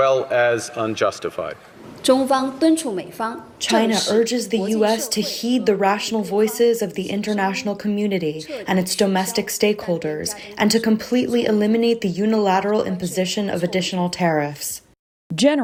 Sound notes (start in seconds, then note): 3.2 through translator